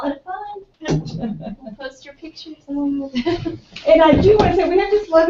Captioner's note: laugh